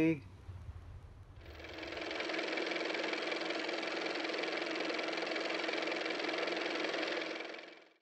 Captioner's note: car motor